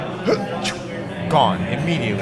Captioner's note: huffing